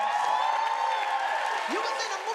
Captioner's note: audience cheering